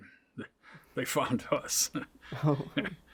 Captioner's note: chuckles